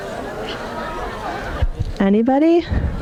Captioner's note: audience murmuring